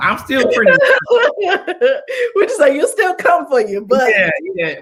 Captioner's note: laughter